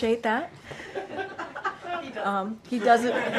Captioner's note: laughter